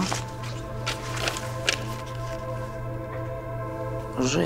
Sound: pages rustling

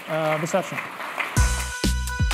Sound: applause

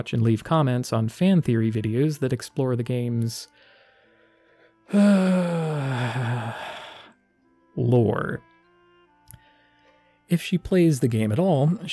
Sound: heavy sigh

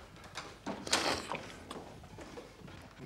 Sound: slurps

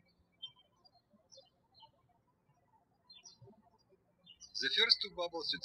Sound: birds chirping

